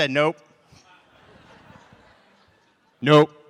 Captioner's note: laughter